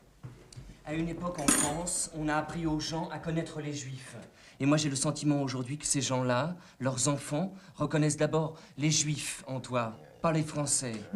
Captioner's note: speaking french; speaking french